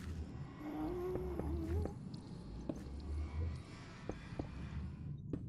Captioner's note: Ghast's eerie mumbles